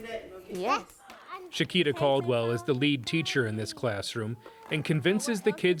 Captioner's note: voice-over